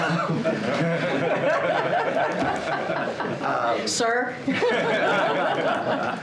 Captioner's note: laughter